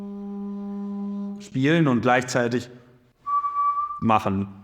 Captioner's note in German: Pfeifgeräusch